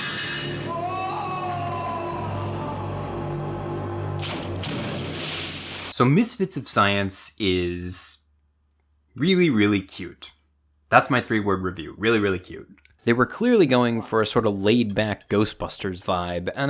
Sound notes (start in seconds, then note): 0.8 man groaning